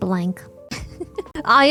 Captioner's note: laughs